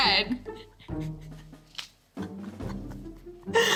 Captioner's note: laughs